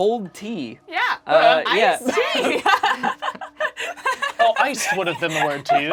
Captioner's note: laughs